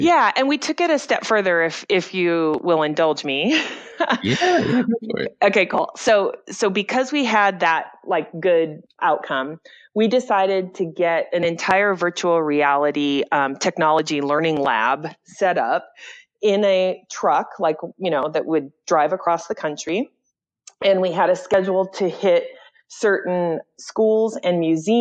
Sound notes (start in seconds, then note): 4.0 laughs